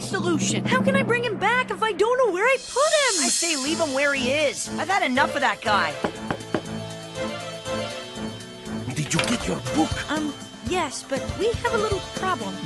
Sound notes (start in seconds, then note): 6.0 knock at window